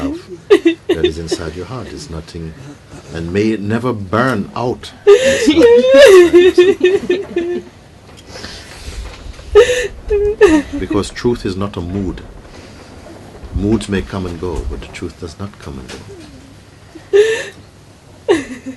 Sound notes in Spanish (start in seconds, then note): 8.9 sollozos